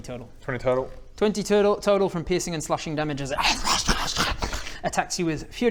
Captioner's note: rarrgh-rrwr-szshh